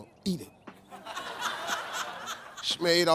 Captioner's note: audience laughing